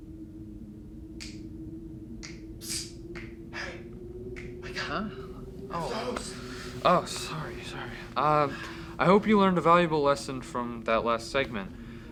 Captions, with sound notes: (ominous music) (snapping) - Hey, wake up. - Oh, sorry, sorry.